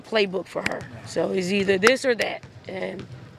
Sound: hands clapping

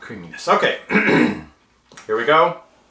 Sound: clears throat

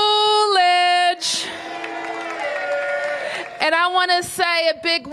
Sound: applause

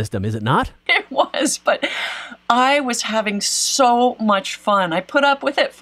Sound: laughs

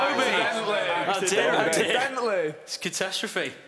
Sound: shouting

